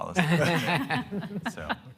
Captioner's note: all laughing